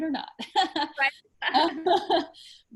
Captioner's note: laughs